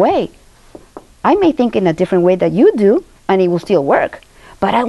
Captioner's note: none